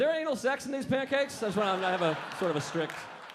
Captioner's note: audience laughing